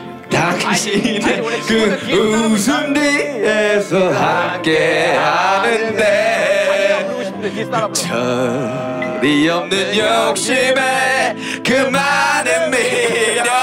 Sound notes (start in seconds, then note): 3.7 Suara yang semakin keras